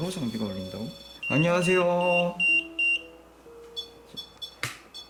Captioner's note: beep sound